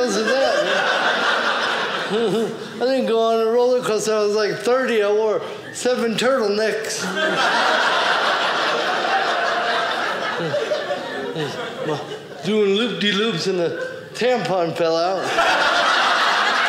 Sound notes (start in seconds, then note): 0.0 audience laughing; 6.9 audience laughing